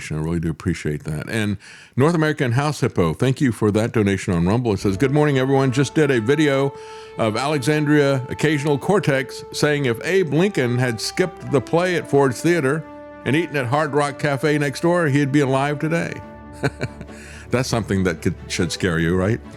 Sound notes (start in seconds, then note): 16.5 laughs